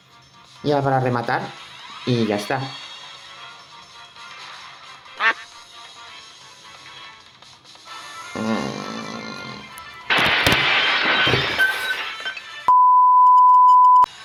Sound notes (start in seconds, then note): 9.8 crash